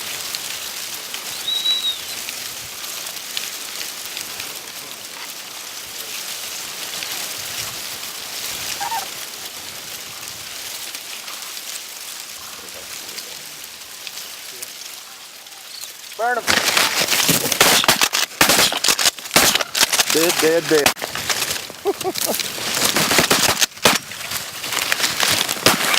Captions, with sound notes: [crane call] burn'em [gun shot] dead dead dead [gun shots]